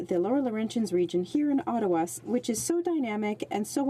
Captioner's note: speaking French